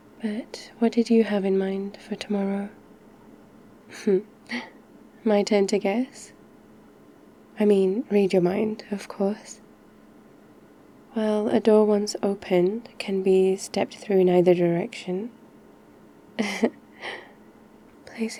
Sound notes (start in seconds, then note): 4.2 laughs; 16.4 laughs